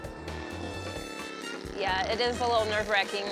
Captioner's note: engine revving